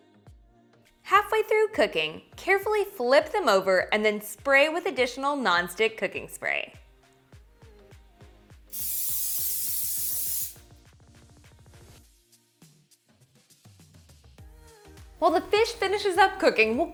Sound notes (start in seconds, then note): 8.7 aerosol hisses